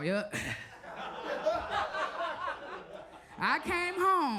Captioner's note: audience laughs